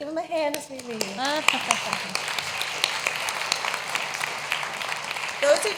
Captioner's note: applause